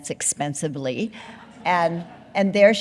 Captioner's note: audience laughing